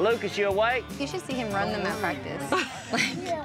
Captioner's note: laughs